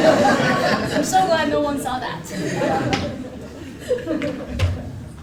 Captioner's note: laugh